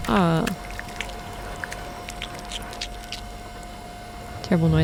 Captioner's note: gross fleshy moist noises